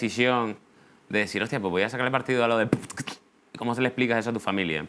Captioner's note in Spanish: hace beatbox